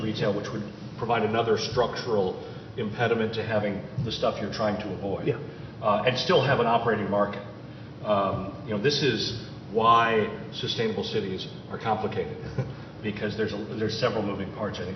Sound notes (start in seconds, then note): 12.4 chuckles